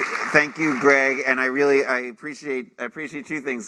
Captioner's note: applause